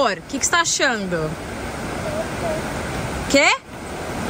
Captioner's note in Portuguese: água corrente